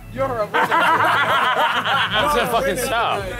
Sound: laughs

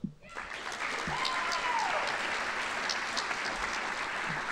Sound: audience applauding

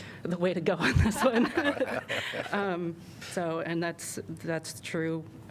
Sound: laughter

